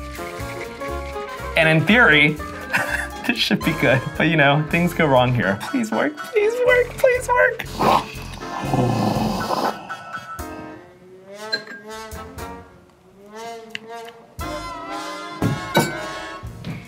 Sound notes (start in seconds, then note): 7.5 whipped cream whooshing; 13.6 smacking lips